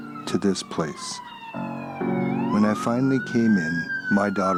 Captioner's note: sirens